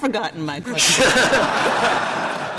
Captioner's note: laughter